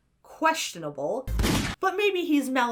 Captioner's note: gun fires